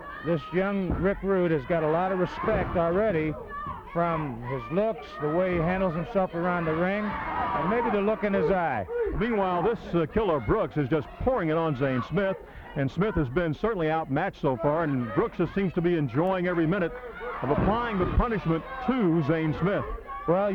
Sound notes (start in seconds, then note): 6.2 wrestlers grunting